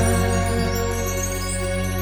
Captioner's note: chimes